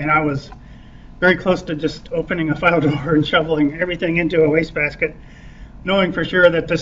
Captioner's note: laughs